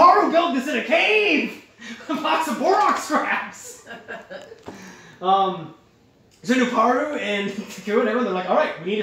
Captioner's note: chuckling